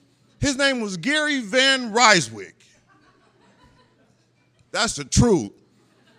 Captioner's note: laughter